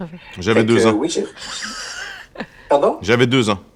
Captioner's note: laughter